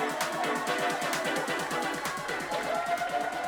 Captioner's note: all cheering